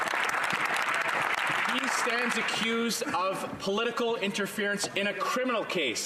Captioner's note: some Applause